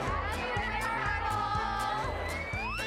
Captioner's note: whistling